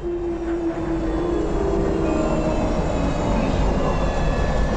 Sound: plane engine turning off

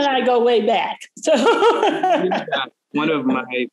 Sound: laughing

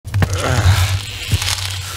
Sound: ice cracking

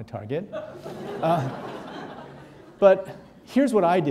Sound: audience laughing

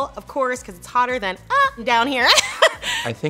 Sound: laughs

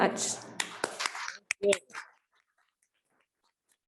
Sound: applause

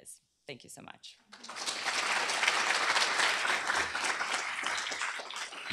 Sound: applause

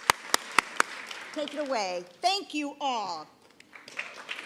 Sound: applause

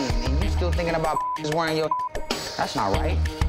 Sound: beep

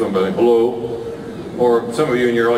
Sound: in a low mumbled voice

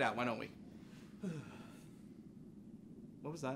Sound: Cipher shudders

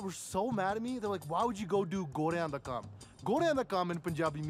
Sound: speaks Punjabi

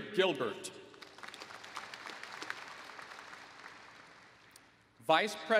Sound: applause

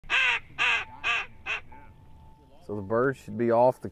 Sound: duck calls

